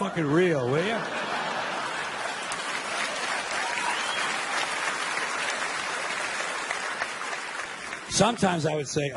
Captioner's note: audience applauding and laughing